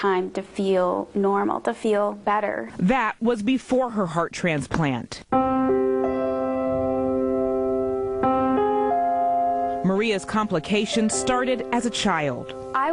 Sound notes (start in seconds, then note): 2.8 voiceover; 5.3 slow piano music